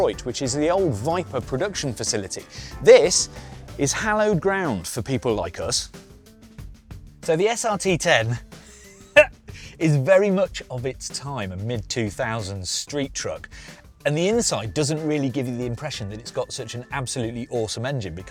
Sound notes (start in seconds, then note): 8.6 he laughs